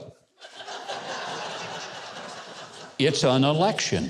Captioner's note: laughter